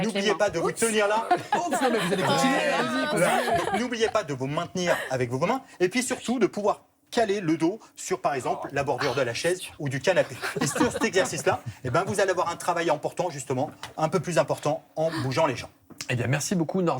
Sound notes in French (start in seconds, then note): 0.8 rires; 10.0 rires